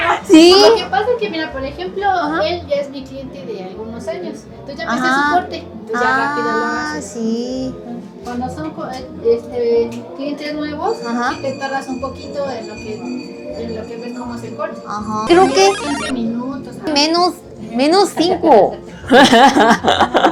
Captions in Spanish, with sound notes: rápido. Lo que pasa es que mira, por ejemplo, él ya es mi cliente de algunos años. Ah, sí, cuando son este clientes nuevos y te tardas un poquito en lo que en lo que ves cómo se corta. Ajá. Creo que 15 minutos menos menos cinco. [risas]